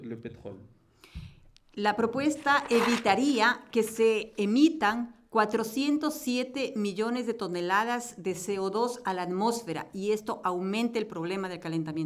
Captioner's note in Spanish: Español